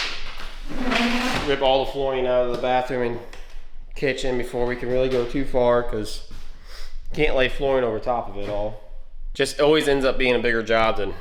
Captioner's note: drilling